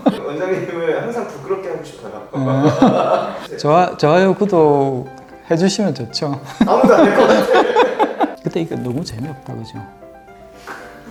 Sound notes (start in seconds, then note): 6.4 laughter